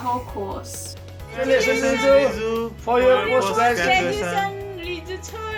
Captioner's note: speak in foreign language